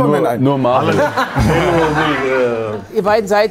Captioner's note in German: Tusch, Lachen